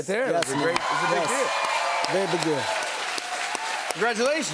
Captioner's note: cheers and applause